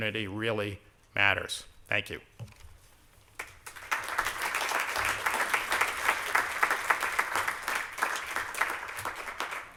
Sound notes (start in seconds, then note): 3.3 applause